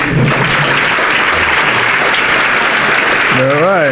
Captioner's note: audience applauding